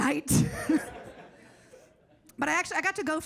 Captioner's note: audience laughs